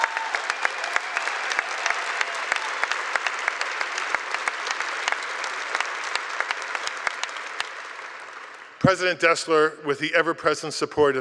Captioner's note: cheers and applause